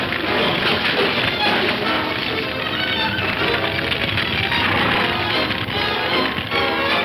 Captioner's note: objects crashing; fire crackling; dramatic music